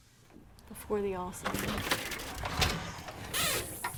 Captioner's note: clattering